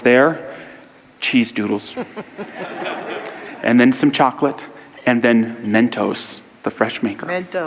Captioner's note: audience laughter